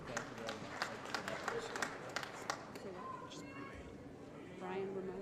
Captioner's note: applause